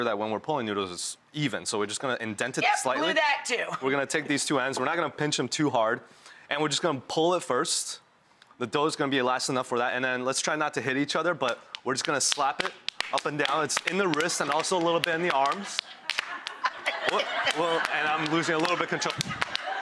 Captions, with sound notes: that when we're pulling noodles it's even. So we're just gonna indent it. Yes, blew that too. We're gonna take these two ends. We're not gonna pinch 'em too hard and we're just gonna pull at first. The dough's gonna be elastic enough for that and then let's try not to hit each other but we're just gonna slap it up and down. (slapping) It's in the wrist and also a little bit in the arms. (audience laughing) Woop, whoa, and I'm losing a little bit control.